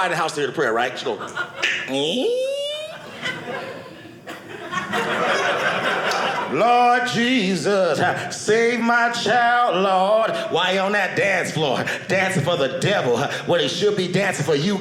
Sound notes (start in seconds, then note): 2.1 door opening; 4.7 audience laughing